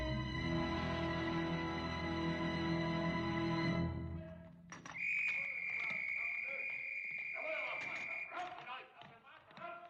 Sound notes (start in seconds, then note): 4.5 men Yelling In German; 4.8 whistle Blows